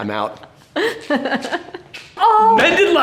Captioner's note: laughing amusingly